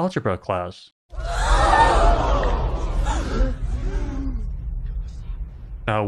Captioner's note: crowd gasping sound